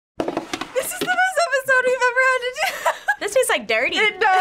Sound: laughs

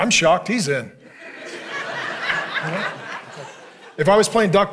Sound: congregation laughing

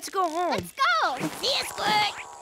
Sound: buzzing

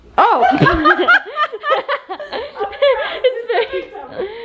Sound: laughs

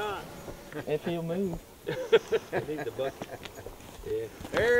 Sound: men chuckle

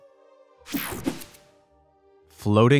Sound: picture swooshes

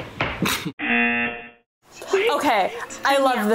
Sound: laughs; buzzer rings

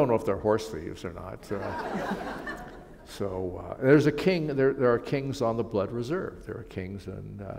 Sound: laughter

